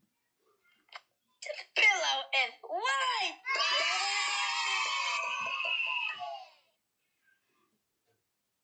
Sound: kids Cheering

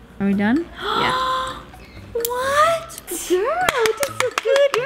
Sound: gasps

